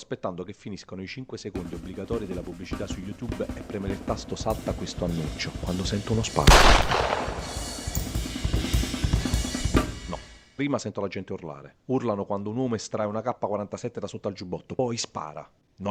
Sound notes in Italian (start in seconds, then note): 6.4 Sparo e panico